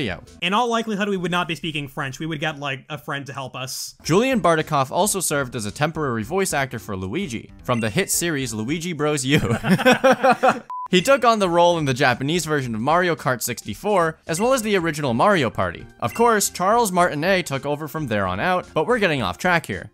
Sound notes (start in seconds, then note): 9.3 both laugh